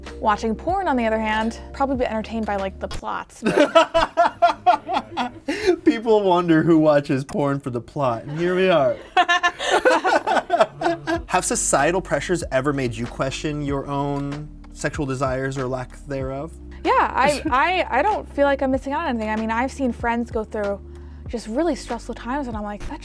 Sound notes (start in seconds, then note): 3.4 laughS; 8.2 laughter